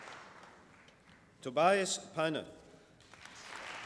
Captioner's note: applause